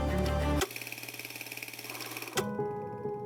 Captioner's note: film projector rattling; gentle contemplative music